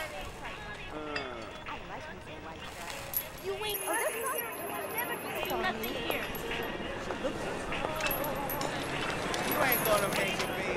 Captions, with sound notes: Oh. I likes me some white trash. You ain't nothing here and you will never be nothing here. (chains rattling) You ain't gonna make it, baby.